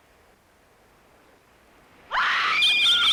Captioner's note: she screams